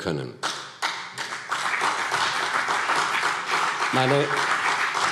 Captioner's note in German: Beifall CDU und vereinzelt BÜNDNIS 90/DIE GRÜNEN